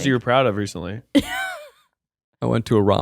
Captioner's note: laughs